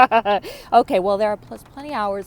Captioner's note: laughter